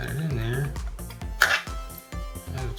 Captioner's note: tool taps on desk